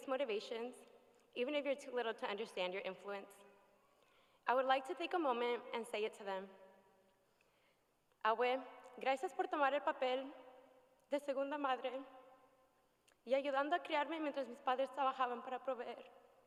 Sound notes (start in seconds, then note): 11.0 speaking spanish